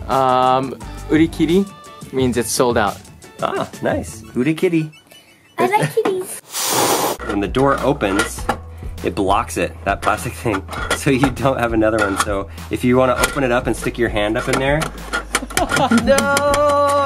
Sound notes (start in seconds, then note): 1.0 speaks in Japanese; 6.4 cat hissing sound